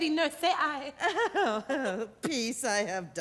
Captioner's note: laughing